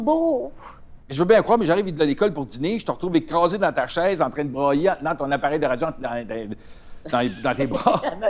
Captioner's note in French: rires